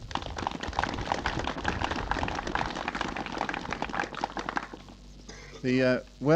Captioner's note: applause